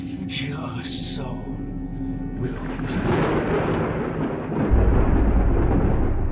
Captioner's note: thunder rumbles